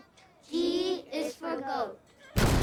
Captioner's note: exploding